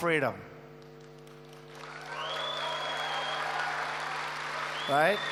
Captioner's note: applause